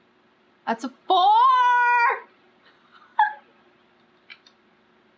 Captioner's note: laughs